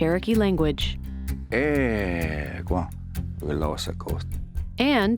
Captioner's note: Speaking in Cherokee language